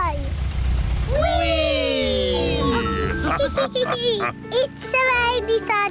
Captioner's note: all laugh